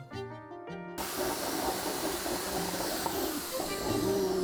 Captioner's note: drill rotates